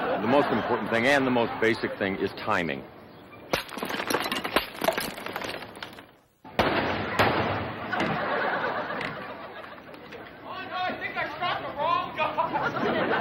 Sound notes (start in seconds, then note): 3.4 bottle breaking; 6.5 gun fires; 7.8 audience laughs; 12.3 laughs